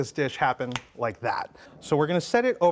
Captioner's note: snaps fingers